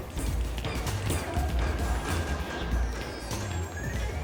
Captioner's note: overlapping chatter